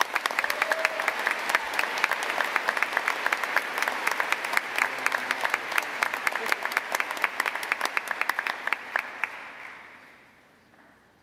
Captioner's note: cheers and applause